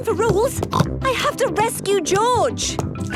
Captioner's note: snorts